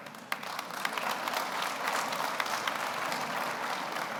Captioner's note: audience applauds